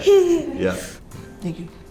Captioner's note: laughter